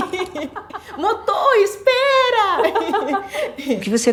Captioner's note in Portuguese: risos